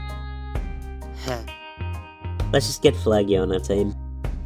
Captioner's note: sigh